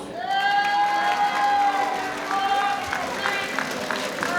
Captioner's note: audience cheering